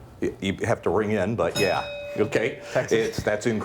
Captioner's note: bell dings